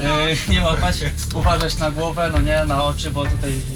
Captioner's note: man speaking Polish